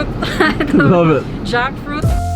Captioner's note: laughs